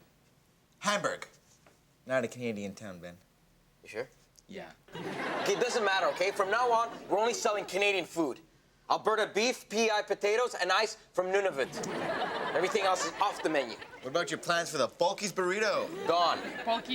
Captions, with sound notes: Hamburg! Not a Canadian town, Ben. - You sure? - Yeah. - Okay, it doesn't matter, okay? From now on, we're only selling Canadian food. Alberta beef, pea-eye potatoes, and ice from Nunavut. (audience laughs) Everything else is off the menu. - What about your plans for the Bulky's burrito? - Gone.